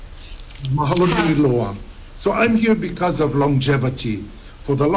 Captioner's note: speaks Hawaiian